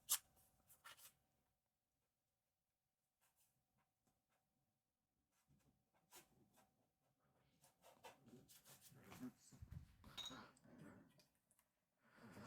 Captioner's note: silence